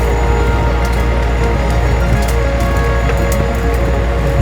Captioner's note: branches snapping